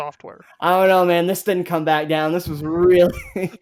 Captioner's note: laughs